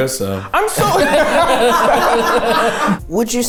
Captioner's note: everyone laughing